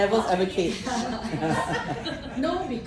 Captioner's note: laughter